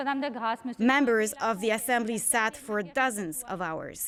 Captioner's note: speaking French